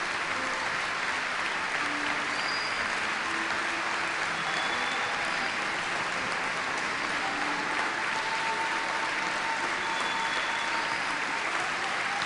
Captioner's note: more Muslim visitors entering the church and more applause